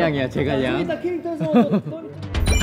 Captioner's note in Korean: ㅎㅎㅎㅎ